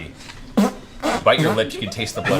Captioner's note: makes fart noises